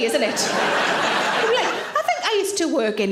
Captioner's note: audience laughs